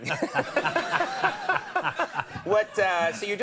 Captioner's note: laughing